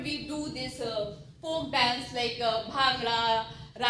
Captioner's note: speaking foreign language